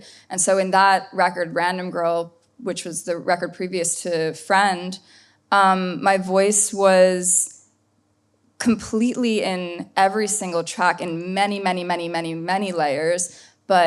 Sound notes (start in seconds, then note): none